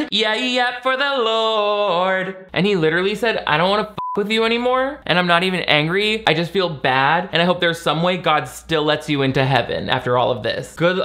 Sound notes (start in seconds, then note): 4.0 beep